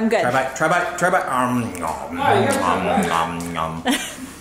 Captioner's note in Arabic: يصدر أصوات طقطقة; يضحك